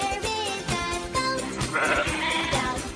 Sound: goat bleats

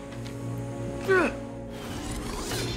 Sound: grunts

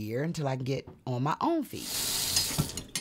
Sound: running water

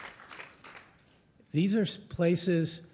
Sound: applause

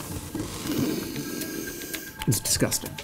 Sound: inhales loudly

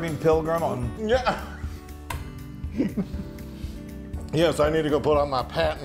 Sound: laugh

